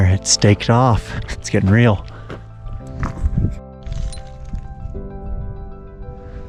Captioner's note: footsteps crunching